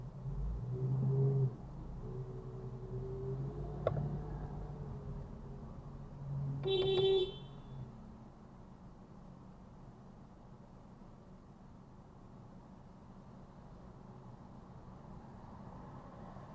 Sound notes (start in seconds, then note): 6.6 beepbeepbeep